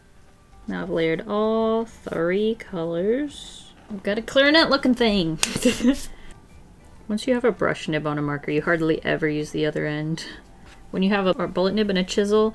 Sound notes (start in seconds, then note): 5.6 laughs